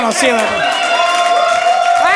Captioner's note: audience cheering